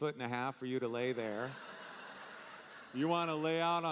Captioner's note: audience laughing